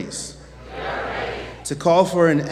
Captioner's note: audience chants "We are ready"